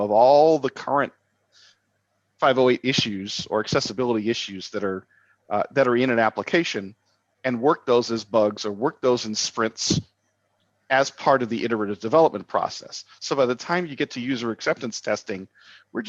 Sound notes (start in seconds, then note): none